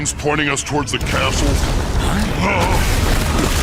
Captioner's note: rumbling